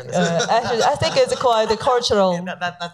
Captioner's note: laughing